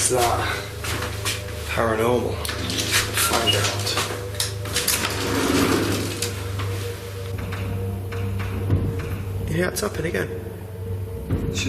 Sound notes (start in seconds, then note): 5.4 eerie music; 7.2 strange tapping sound